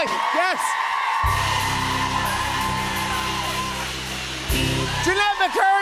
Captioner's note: cheers and applause